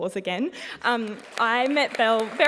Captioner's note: applause